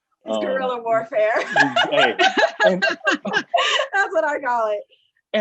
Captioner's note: all laughing